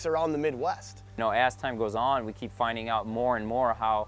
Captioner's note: voiceover